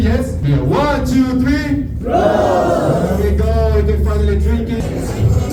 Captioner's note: cheers